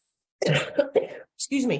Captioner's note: she coughs